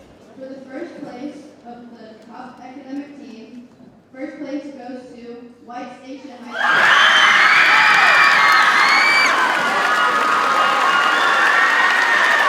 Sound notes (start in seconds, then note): 6.5 audience cheers and applauds